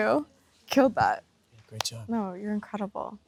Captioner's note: hands clap